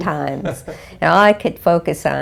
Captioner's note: laugh